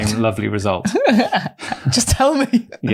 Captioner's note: laughter